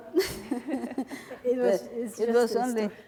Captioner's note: laughing